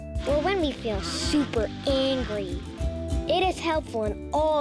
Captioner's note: bee buzzing